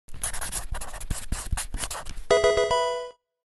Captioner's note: marker scratching; electronic video game chime